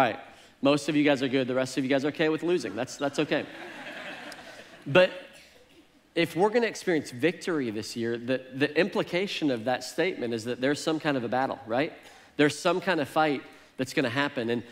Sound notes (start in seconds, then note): 3.3 congregation laughs